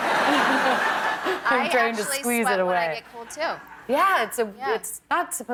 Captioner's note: laughter